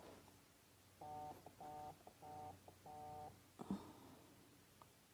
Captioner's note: phone vibrating